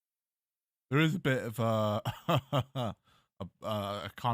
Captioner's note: chuckles